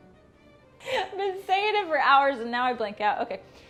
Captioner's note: laughs